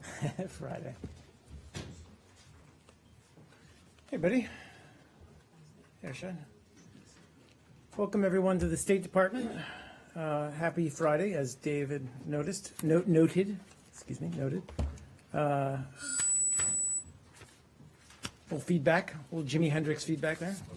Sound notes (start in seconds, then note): 16.0 audio feedback